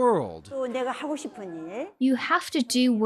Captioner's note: speaking Korean